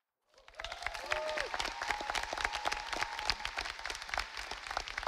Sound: audience applauding

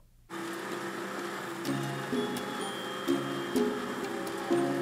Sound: humming of machinery

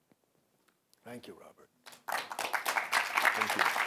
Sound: applause

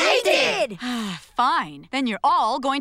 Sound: sighing

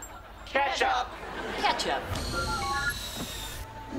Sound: beeping

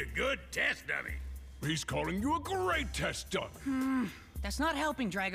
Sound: sighs

